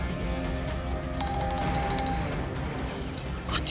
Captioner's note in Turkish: Telefon çalıyor